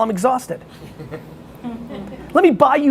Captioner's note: laughing